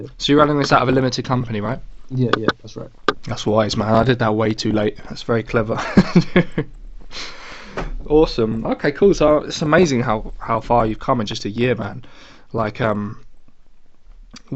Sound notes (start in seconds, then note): 6.2 laughs